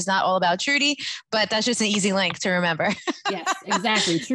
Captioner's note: laughs